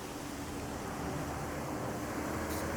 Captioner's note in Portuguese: som de água na fonte